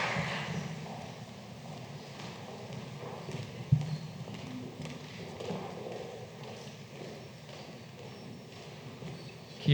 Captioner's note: applause